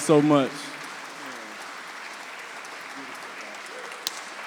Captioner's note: audience clapping